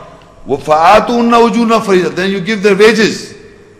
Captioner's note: Arabic